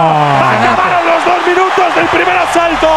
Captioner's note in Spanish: Gritos